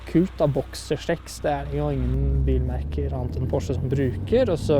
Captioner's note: engine